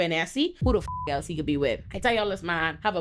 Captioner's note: beep